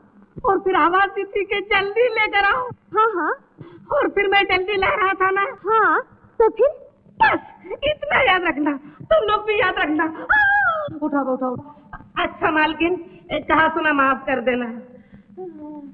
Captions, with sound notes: And then you said that hurry up. - Yes. And when I was bringing the tea. - Yes, so what? That's enough you remember this much. Even you all remember this. (Groans) Please support me. Please forgive me for my mistakes.